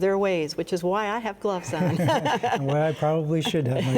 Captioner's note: laughing